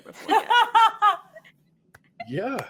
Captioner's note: all laughing